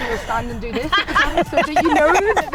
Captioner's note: laughing